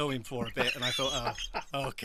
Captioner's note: laughs